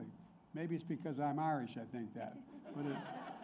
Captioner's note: laughter